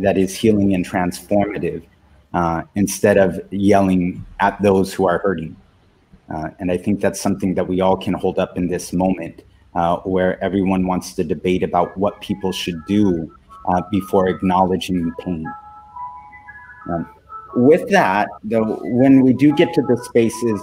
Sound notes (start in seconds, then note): 11.4 chimes in background